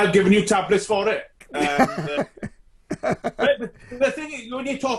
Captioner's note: laughs loudly